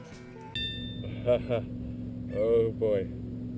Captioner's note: laugh